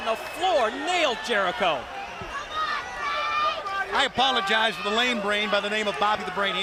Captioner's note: crowd chatter